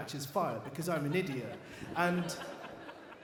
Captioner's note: audience laughs